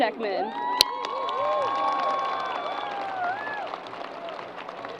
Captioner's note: crowd applause